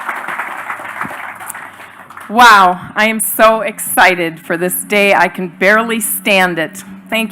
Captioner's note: applause